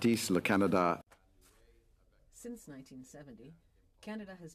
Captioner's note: speaking French